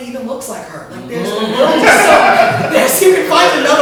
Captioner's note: laughter